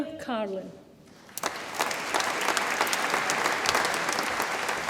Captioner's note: audience applauds